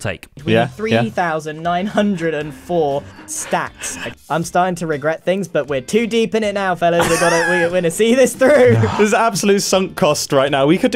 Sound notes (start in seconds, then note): 7.6 stammers; 8.6 sighs